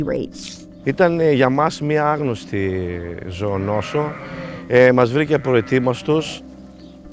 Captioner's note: speaking in foreign language